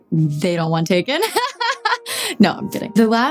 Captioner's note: Dove laughing